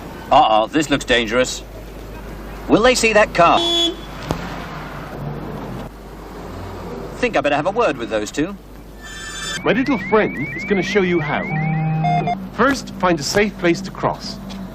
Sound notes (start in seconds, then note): 3.5 car horn; 9.5 whoosh